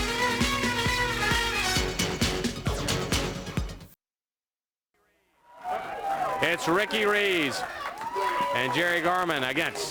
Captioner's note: crowd cheering